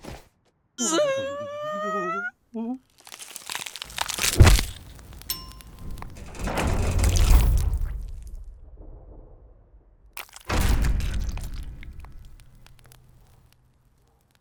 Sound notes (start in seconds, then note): 0.8 Paul and Rudd whimpering; 2.8 slide, crackle; 5.3 elevator ding; 11.3 fire crackle